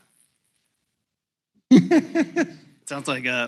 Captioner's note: laughs